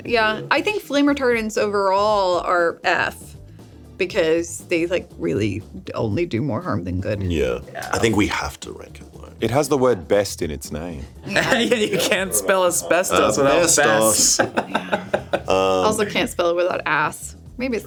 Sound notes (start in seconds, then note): 15.2 laughs